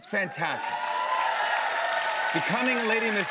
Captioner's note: cheers and applause